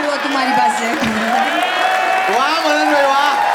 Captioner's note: crowd applauding